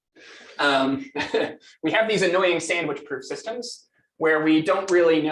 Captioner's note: laughs